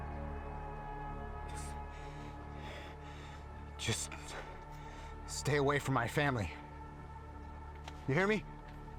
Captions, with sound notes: What the...(breathes heavily) Just stay away from my family. You hear me?